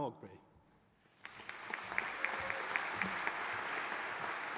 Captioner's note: audience applauding